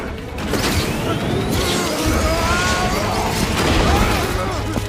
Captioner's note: jets swooshing